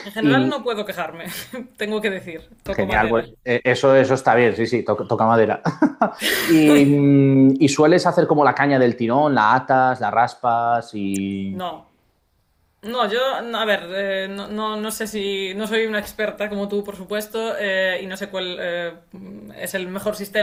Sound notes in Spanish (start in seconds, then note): 5.6 risas